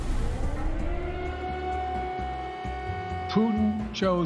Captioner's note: siren wailing